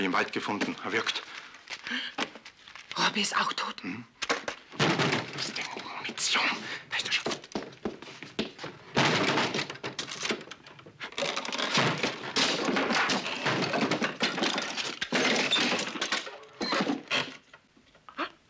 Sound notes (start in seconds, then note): 4.7 door banging; 8.9 door banging